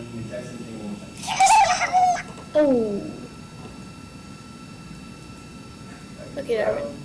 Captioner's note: robot beeping